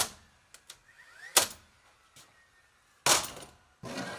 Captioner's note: nail gun popping